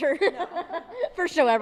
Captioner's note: laughing